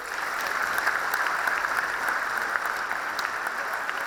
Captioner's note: audience applauds